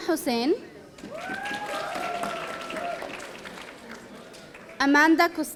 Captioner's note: audience applauding